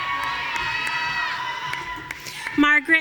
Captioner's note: audience cheering